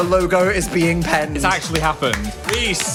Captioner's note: claps